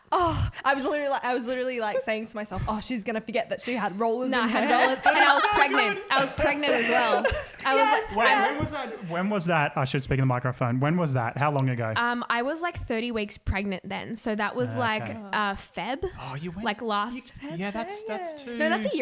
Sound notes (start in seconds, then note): 7.6 laughing